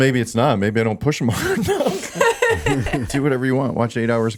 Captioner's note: laughing